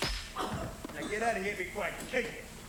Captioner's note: sound of hitting